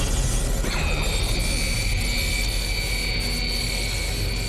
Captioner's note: zapping